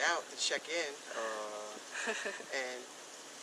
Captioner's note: laughs